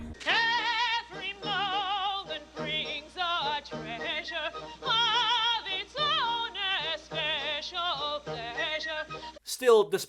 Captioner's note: falsetto; chest voice